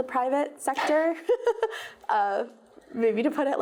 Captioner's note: chuckles